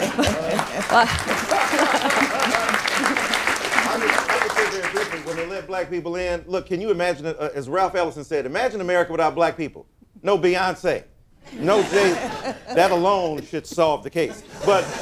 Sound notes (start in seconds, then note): 2.5 applause; 2.5 laughter; 11.5 laughter; 14.2 laughter